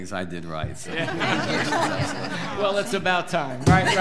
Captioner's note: all laughing